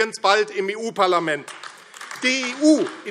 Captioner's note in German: Beifall AfD